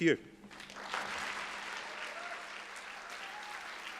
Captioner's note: applause